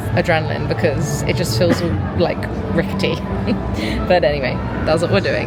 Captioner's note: chuckling